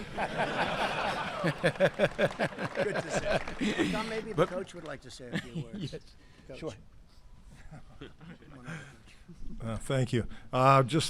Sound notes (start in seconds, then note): 0.0 laughter and applause; 7.6 laughs